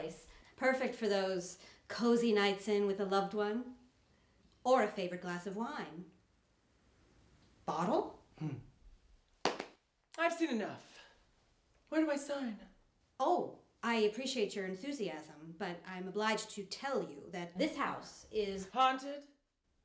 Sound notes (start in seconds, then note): 8.2 humming; 9.4 clapping